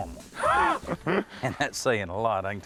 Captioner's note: both laugh